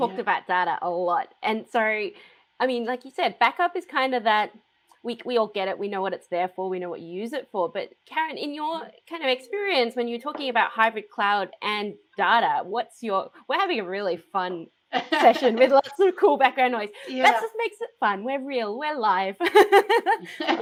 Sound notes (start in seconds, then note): 15.0 laughs; 19.5 laughs